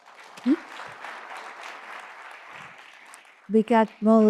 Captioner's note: audience applauds